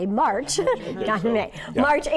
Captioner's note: laughing